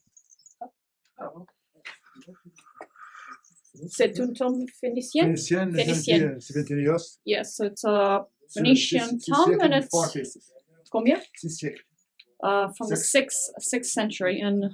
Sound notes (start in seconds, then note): 4.0 speaking in french